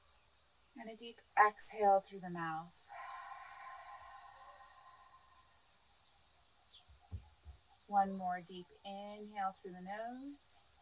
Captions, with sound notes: and a deep exhale through the mouth (exhales). One more deep inhale through the nose,